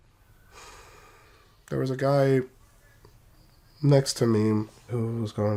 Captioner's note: sighs